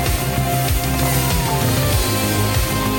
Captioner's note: cheers again